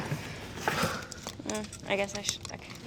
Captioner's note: Ashley sighs